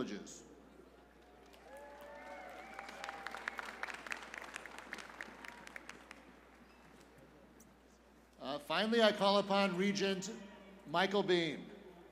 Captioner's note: cheers and applause